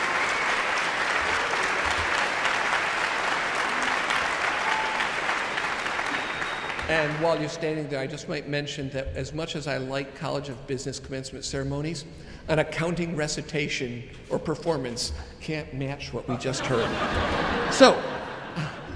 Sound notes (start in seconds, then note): 1.5 audience applauding continues; 16.3 audience laughs